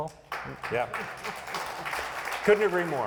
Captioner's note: applauding